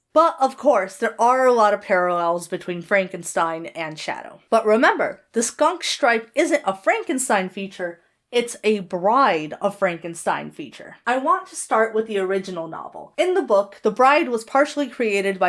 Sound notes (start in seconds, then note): none